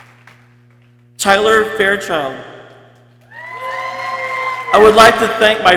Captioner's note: people cheering